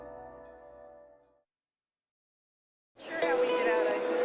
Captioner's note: silence